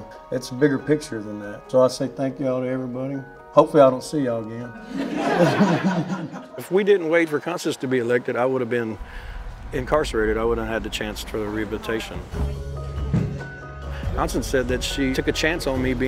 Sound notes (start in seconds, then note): 4.8 laughter